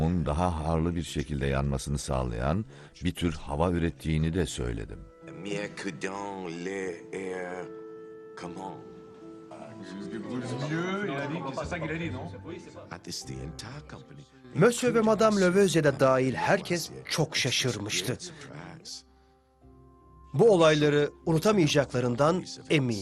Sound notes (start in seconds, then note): 8.2 talking excitedly